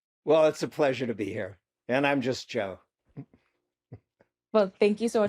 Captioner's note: chuckles